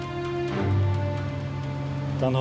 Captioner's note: turbine rumbling